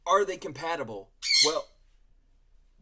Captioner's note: parrot squawks